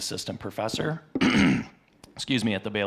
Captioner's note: clears throat